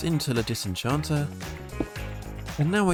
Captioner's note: block placing sound